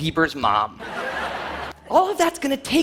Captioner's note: audience laughing